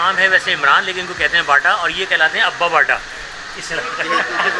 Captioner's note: both laughing